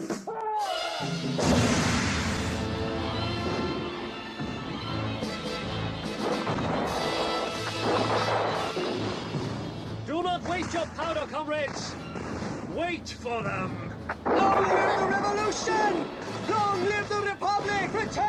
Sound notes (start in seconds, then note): 1.4 gunshots banging; 3.6 gunshot bangs; 4.5 gunshot booms; 6.1 gunshots banging; 14.0 gunshots banging